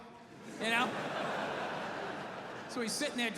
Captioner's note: audience laughing